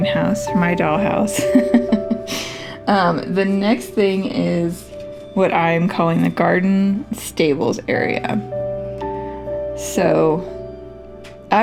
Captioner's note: laugh